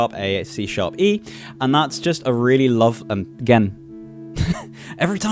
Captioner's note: laughs